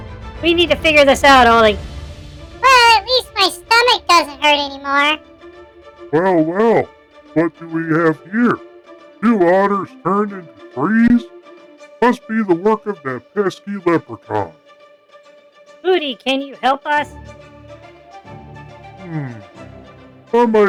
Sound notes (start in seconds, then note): 0.5 voiceover, frustrated; 3.0 voiceover, sarcastically; 14.6 voiceover, hopeful